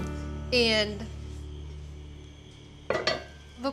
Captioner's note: pot lid clanks